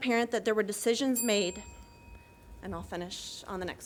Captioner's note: bell dings